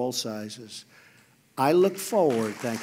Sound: applause

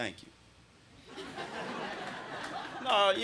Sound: crowd laughing

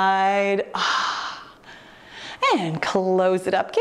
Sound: exhales sharply

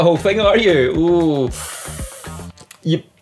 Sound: winces

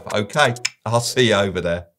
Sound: tongue clicks

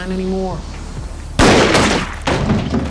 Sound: gunshots

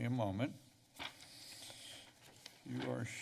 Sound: pages rustling

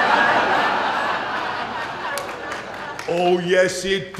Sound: laughter

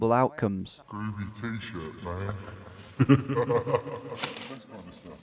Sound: laughing

